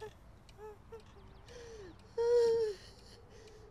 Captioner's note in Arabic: دقات الساعة